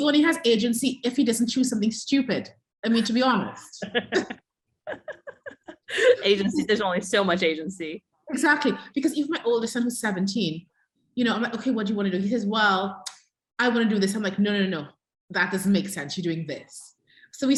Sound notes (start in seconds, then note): 4.8 laughter